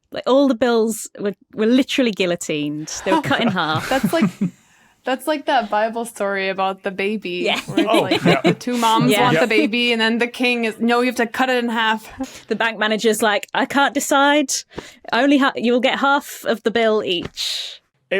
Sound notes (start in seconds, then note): 2.8 group chuckling; 7.7 cackles